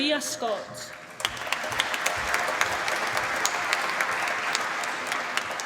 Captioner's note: applause